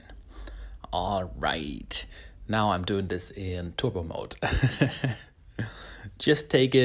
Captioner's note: laughs